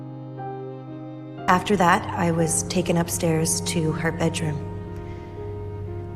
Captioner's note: voiceover